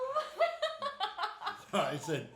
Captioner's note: laughing